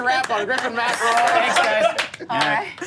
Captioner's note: clapping; claps